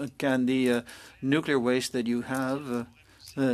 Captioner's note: speaking French